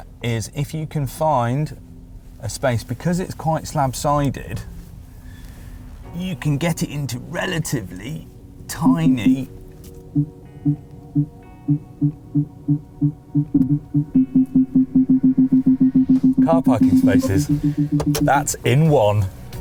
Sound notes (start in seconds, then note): 9.9 beeping; 13.2 faster beeping